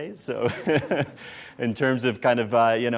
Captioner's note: laughs